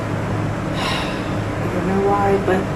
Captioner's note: sighs